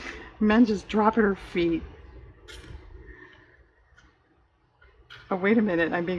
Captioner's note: laughs